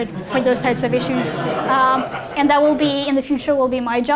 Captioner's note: audience laughing